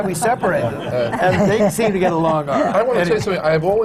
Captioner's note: laughter